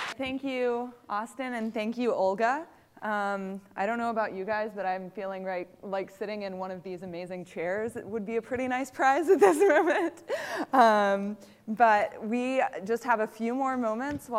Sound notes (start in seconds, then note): 9.4 laughter